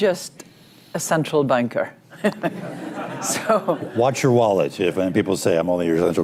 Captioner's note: laughter